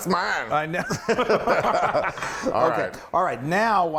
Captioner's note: laugh